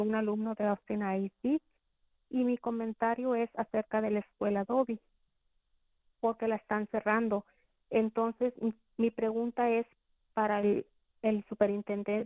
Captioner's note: speaking in spanish